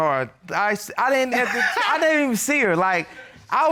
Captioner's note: Judge Dana laughing